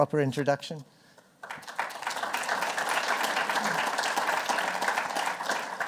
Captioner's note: applause